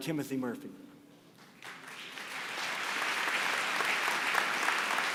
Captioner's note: applause